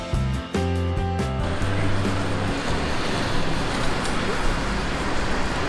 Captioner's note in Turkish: cadde sesi